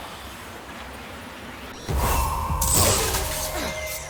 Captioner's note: glass shattering